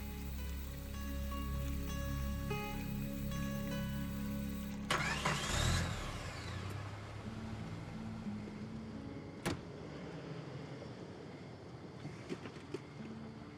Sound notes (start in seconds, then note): 0.0 slow gentle bright music continues; 6.7 soft somber music; 9.4 door thuds